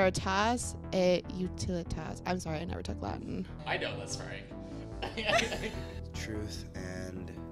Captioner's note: laughing